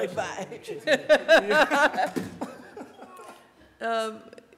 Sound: laughter

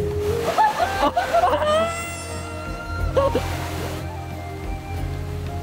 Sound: laugh

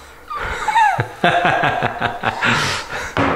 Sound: laughing

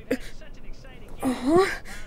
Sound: moans

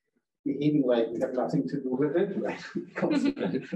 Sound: chuckling

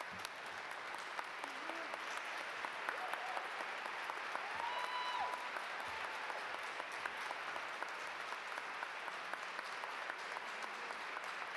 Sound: applause

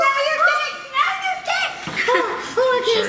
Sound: shouting

